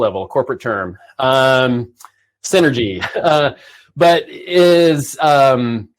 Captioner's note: chuckles